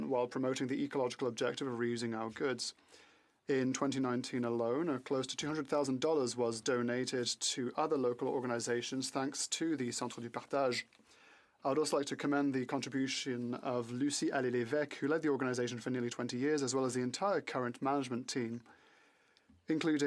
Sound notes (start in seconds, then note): 13.6 speaking French